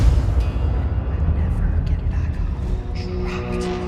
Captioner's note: tormented whispers